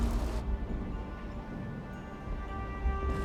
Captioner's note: distant rumbling